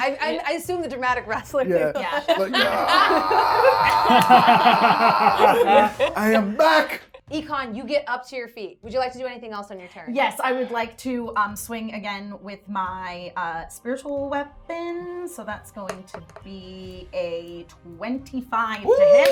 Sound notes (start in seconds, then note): 2.4 yells; 19.1 everyone cheering